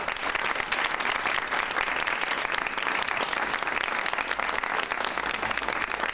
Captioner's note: audience applauds